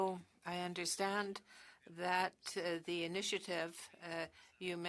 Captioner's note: speaking French